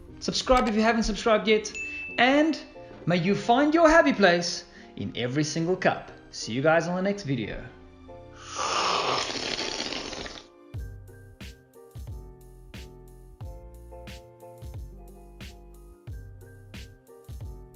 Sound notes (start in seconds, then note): 8.4 slurping